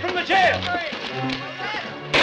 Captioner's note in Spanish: Disparo